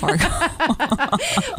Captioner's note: laughter